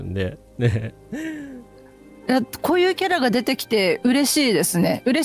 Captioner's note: laughter